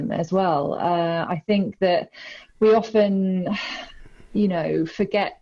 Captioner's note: sighs